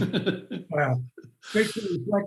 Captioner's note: laughter